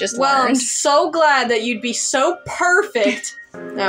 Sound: chuckle

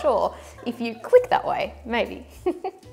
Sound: chuckles

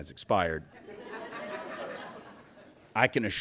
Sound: laughter

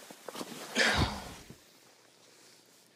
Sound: thud

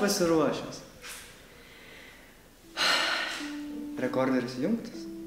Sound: sigh

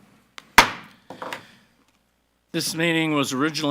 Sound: gavel clacks

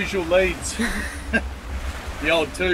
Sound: both laugh

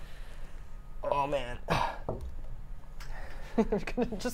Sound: grunts

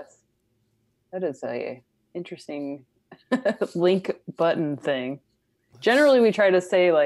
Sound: laughs

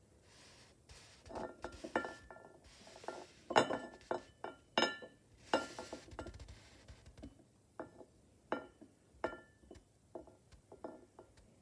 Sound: bowl rolling on table and clinking against plate

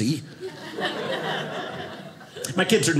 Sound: audience laughing

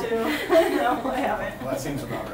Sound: laughs; laughter

